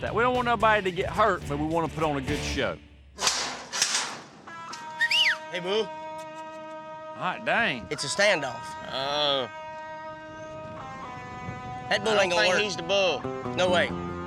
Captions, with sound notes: WE DON'T WANT NOBODY TO GET HURT BUT WE WANNA PUT ON A GOOD SHOW. [GATE CLANGING OPEN] [WHISTLES] HEY, BULL! DANG. IT'S A STANDOFF. UH... THAT BULL AIN'T GONNA WORK. NO WAY.